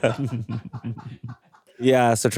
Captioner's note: chuckles; crew laughing